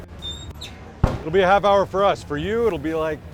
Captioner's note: smoker door squeaks